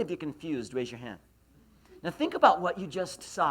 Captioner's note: laughs